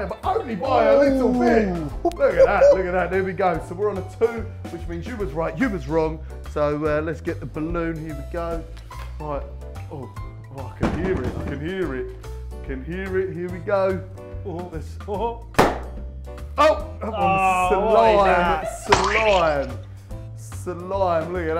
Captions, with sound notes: but only by a little bit, look at that. So we're on a 2 which mean's you was right, you was wrong so let's get a balloon, here we go. Oh I can hear it, I can hear it, I can hear it. Here we go (pop) oh! That one is slime, it's slime, slime look at that.